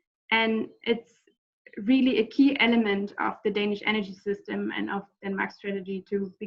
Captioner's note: none